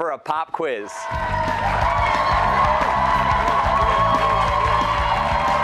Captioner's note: cheers and applause